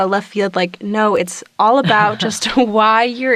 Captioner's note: chuckles